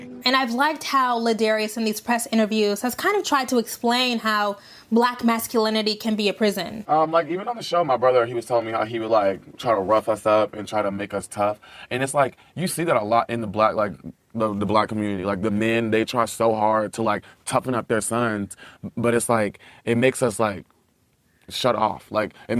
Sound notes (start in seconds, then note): none